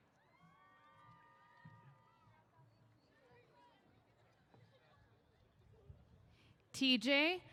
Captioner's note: cheers